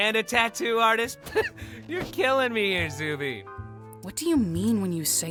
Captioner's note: laughs